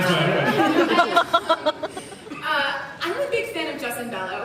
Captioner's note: laughing